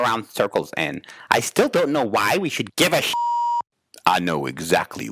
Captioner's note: beep